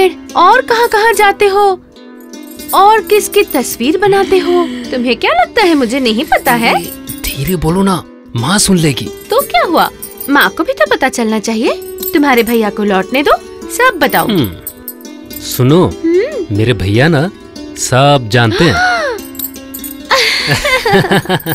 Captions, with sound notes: ...and many other places and made paintings of someone. Do you think I'm not aware of what you are up to? Lower your voice or it might get heard by others. So what. Mother should also know. Let your brother return. I will tell him as well. Look my brother knows it all. [Gasps] [Laughs]